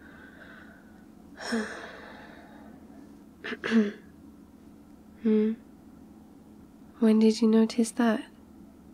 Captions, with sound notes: *sighs* *clears throat* hmm? when did you notice that?